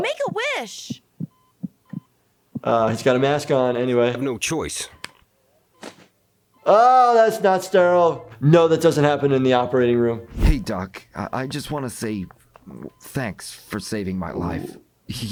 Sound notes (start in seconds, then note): 0.0 heart beating